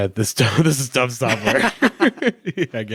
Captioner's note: both chuckle